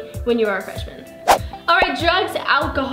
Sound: whooshes

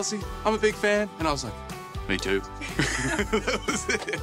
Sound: laughs

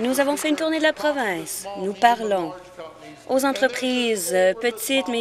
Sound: applause

